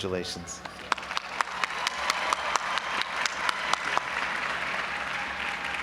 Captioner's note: audience applauding and cheering